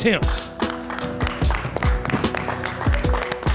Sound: hands clapping

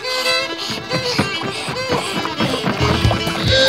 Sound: breathing heavily; screaming

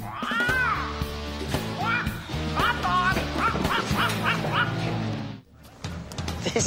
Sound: rock music; parrot squawking

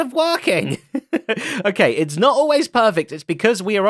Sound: laughs

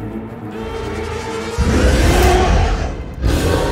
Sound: roars

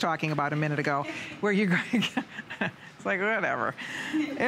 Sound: laughter

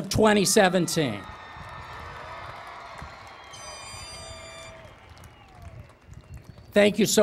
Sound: cheering and Applause

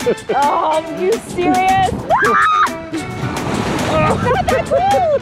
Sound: screams; laughing

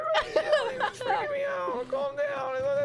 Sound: pathetic laugh

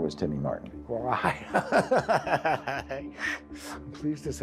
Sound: chuckles

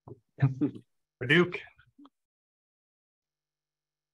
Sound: chuckles

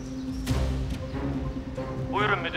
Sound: Omar voice

